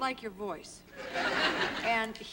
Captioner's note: laughter